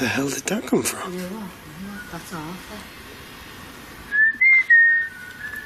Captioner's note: whistling